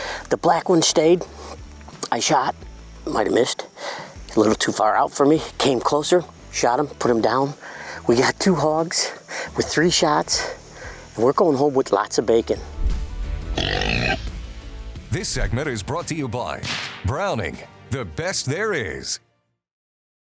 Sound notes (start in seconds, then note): 13.5 boar grunting